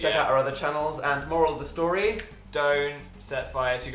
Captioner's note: clicks fingers